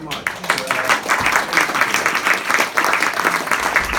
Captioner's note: group claps